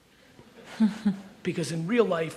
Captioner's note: audience chuckles